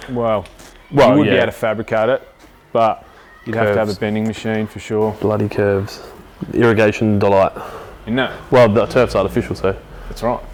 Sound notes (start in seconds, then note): none